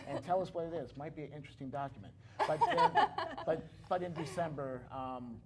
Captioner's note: laughter